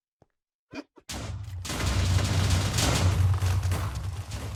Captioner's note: explosion blasting